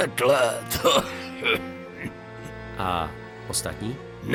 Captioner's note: coughs